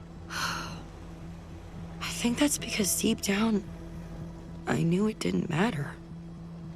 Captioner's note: sighs